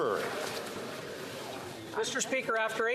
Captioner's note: some Applause